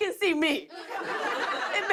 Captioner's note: laughter